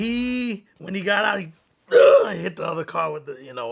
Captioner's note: grunts